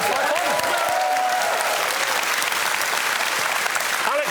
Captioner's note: applause